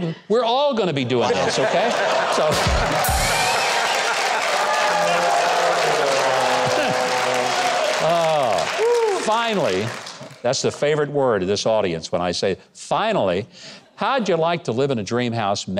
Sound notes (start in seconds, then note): 2.6 crowd laughing